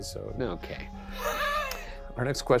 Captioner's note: chuckles